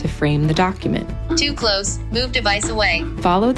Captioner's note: computerized Voice